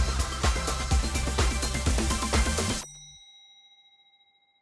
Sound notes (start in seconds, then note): 2.7 bell dinging